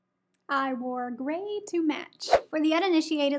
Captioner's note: air whooshes